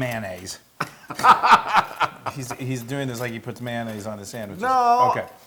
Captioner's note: laugh